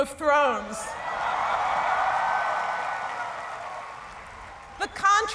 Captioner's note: cheering